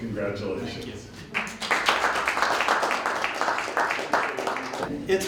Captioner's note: applause